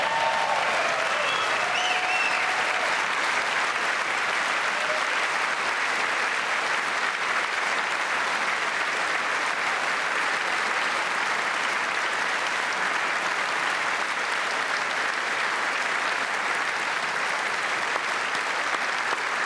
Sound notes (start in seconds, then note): 12.7 cheers and applause